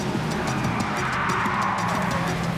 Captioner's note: tires squealing